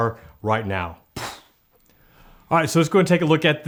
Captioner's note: whooshing sound